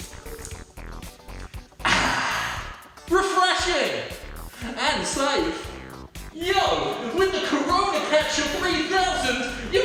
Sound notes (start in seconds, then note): 1.8 exhales